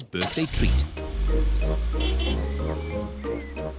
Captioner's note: horn honks